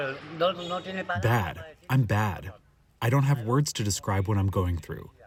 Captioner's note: through translator